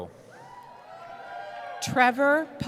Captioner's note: cheering